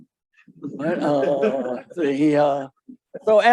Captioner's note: audience laughing